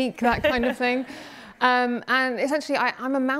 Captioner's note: laughing